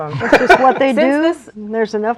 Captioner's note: laughs